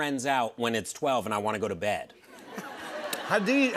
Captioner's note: laughter